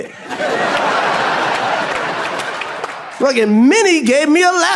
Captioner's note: audience laughs